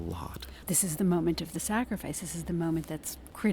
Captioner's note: voiceover